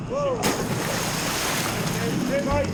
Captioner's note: body splashes